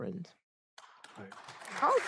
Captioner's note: applause